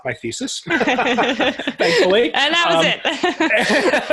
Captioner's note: laughing